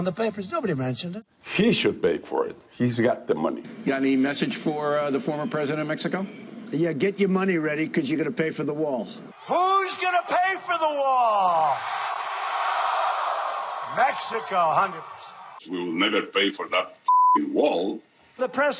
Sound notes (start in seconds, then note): 12.1 crowd; 17.0 beeping